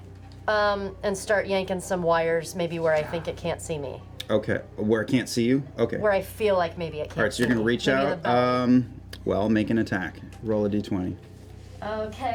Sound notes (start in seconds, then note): none